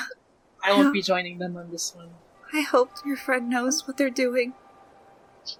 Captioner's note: sighs